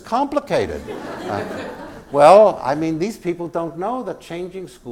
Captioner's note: laugh